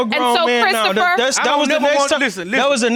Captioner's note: clamoring